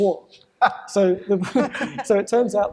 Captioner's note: laughter